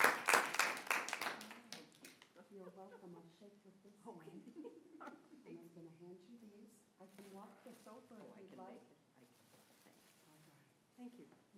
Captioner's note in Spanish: aplausos